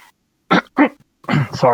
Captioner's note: clears his throat loudly